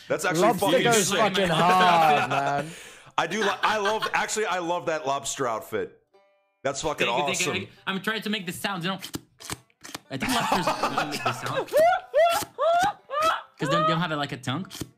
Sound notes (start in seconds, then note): 9.1 three slurping sounds that supposedly resemble lobster noises; 10.2 laughs; 11.7 laughter